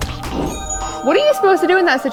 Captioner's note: air whooshing